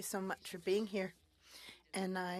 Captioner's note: speaking French